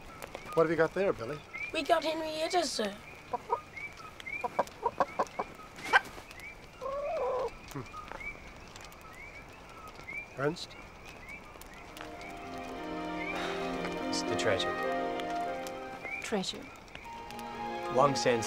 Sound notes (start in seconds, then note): 3.5 chicken clucking